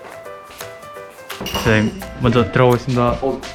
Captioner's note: knocking2